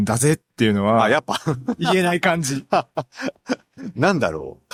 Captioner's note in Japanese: 笑い